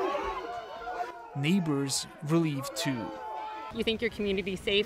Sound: yelling

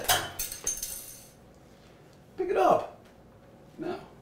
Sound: spoon clattering

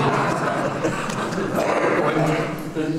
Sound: laughter

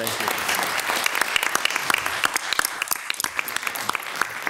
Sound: audience applauding

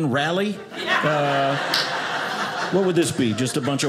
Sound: audience laughing

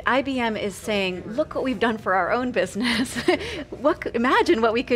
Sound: laughs

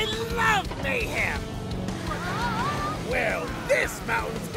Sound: trucks

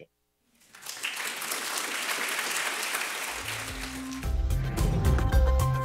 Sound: audience applause; uptempo music

